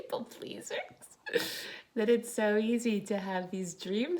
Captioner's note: chuckles